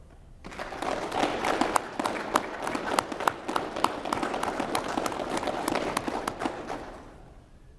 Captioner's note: applause